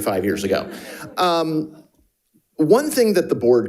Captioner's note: audience and participants laughing